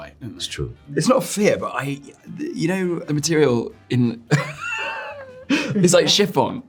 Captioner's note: laughing